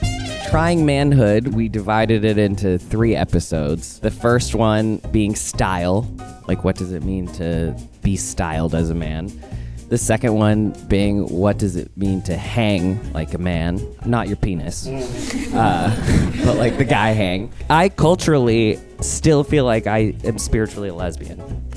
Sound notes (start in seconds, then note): 14.6 audience chuckling; 14.6 chuckling